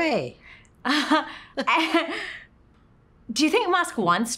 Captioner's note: both laugh